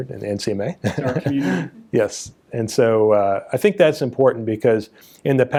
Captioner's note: laughs